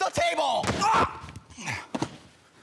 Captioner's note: bang; grunting